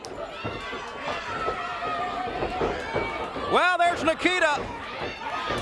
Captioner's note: crowd chatter